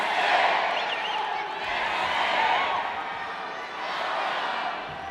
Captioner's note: indistinct chanting